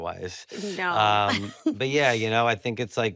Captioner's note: laughs